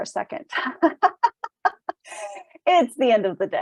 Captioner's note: laughs